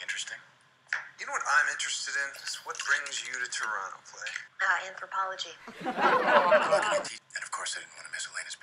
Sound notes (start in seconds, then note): 5.6 crowd laughing